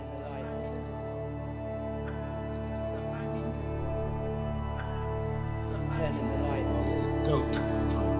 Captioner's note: indistinct chatter